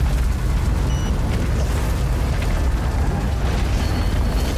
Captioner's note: card machine beeps